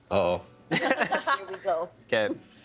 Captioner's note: laughing